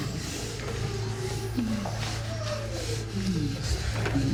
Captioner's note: people chattering; dramatic music